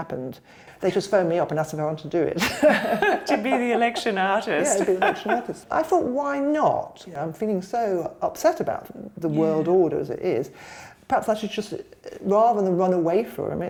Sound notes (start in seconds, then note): 2.4 laughter